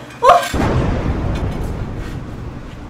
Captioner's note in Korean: 후두둑